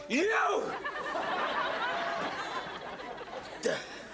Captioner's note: audience laughing